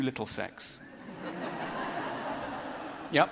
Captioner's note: ضحك